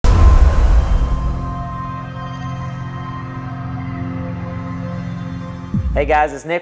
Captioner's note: sound effect